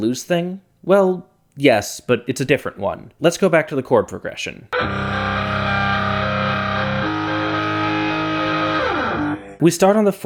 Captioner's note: bang